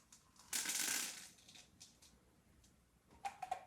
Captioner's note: pills rattling